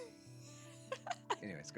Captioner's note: laughing